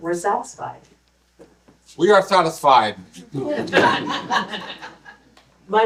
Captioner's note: laughter